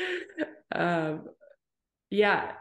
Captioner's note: chuckles